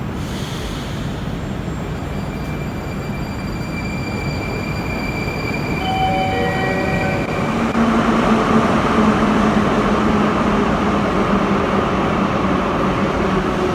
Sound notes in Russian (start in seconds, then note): 5.7 сигнал о прибытии поезда; 8.0 прибытие поезда на станцию